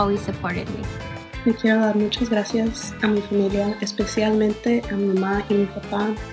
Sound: speaks in foreign language

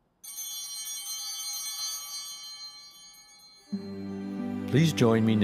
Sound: bell ringing

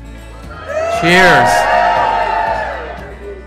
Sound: cheers

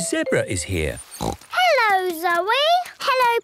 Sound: snorts

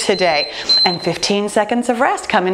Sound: timer beeping

